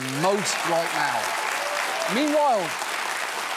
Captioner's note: studio audience cheering